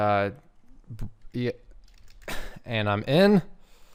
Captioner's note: keyboard clacking